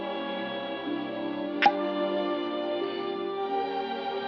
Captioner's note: pops